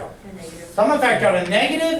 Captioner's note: voiceover